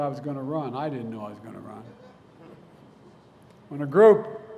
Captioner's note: laughter